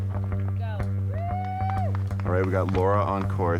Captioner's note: all cheer